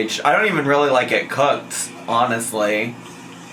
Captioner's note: none